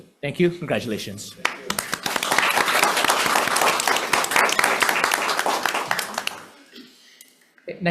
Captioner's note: members applauding